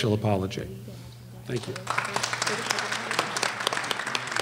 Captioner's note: applause